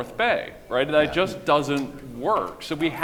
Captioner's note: audience applauding